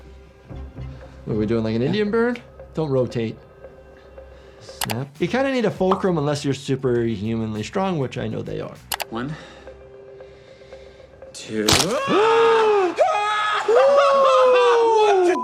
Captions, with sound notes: What are we doing, like an Indian burn? Don't rotate. Snap. You kinda need a fulcrum unless you're super humanly strong, which I know they are. - One, two, (Hughie screams) What the?